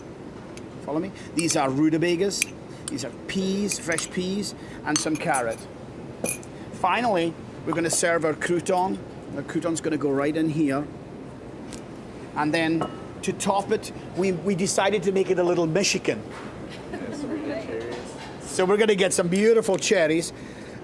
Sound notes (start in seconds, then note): 16.8 students laughing